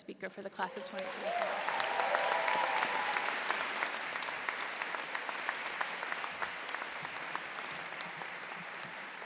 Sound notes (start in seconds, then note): 0.6 cheering